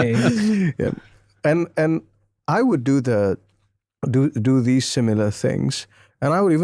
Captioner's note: all laughing